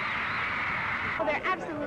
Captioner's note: cheering